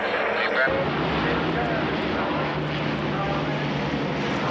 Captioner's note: planes roaring